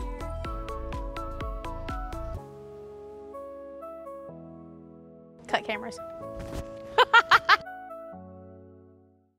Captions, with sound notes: (cheerful music) Cut cameras. (laughing)